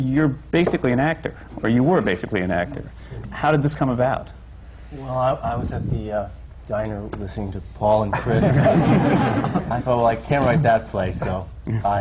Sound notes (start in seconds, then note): 8.2 laughter